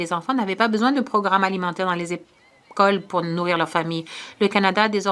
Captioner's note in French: voix de l'interprète